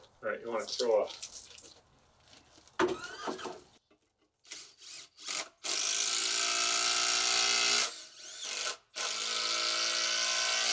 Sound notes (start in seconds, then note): 4.4 drill grating; 4.4 drill whirring